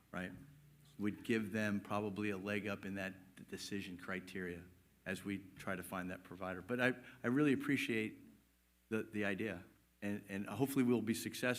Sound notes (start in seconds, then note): none